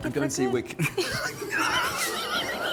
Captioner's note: laughs